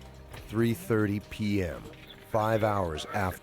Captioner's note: voiceover